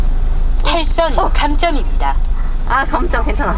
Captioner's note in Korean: 기계음